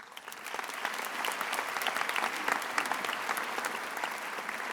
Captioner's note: attendees applauding